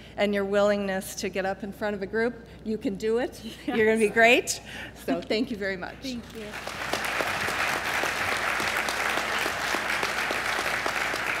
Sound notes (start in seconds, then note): 6.3 applause